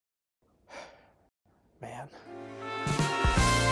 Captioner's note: exhale